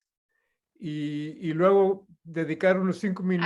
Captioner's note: non-english speech